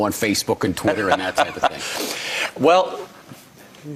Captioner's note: laughing